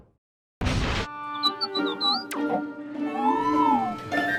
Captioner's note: R3-A3 beeps